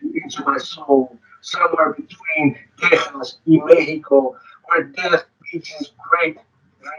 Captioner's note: speaking distorted